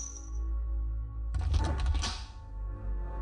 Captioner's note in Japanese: 扉の開閉音：ガッチャン